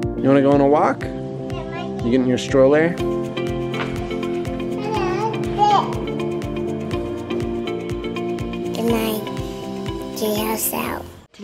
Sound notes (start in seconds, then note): 4.7 babbles